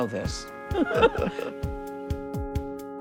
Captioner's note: chuckles